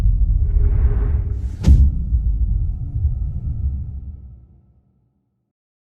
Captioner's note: dramatic sound